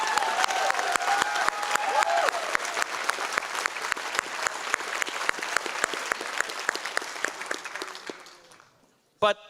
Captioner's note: audience applause